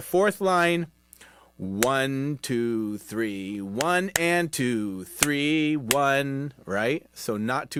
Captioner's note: clapping